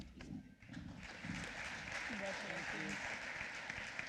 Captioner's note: applause